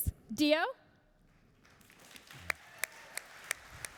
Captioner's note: applauding